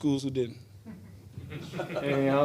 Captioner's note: reporters laugh